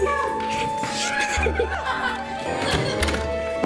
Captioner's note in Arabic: يضحك